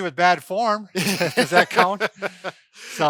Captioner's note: laughing